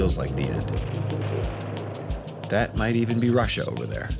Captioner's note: thunder rumbling